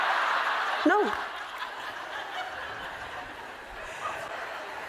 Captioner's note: laughter